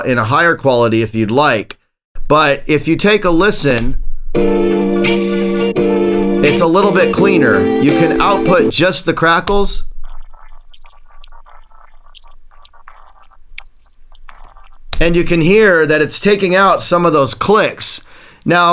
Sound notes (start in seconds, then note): 4.3 sample plays; 9.8 crackles play